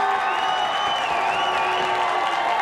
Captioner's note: crowd cheering